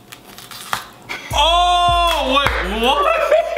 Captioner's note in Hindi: ताली बजाना; हंसी